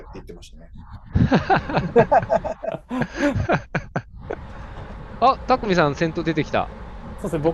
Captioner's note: laughter